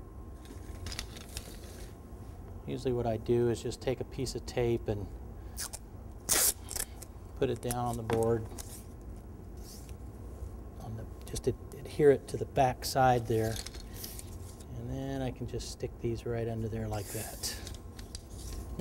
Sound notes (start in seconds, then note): 6.2 tape being pulled from roll